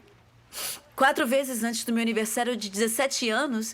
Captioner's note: sniffles